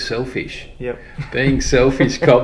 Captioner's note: laughs